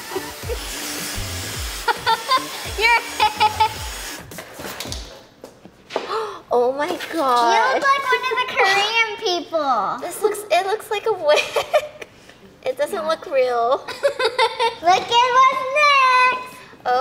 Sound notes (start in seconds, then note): 0.0 blow dryer blowing; 0.0 upbeat music; 2.9 laughs; 6.3 gasps; 11.3 giggles; 13.8 laughing